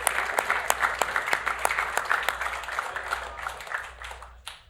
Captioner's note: cheering; applause